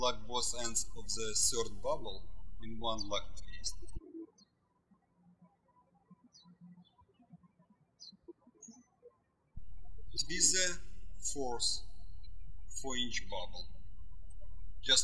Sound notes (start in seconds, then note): 5.1 birds chirping